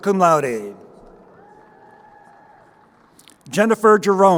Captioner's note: crowd cheering